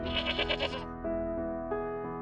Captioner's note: goat bleating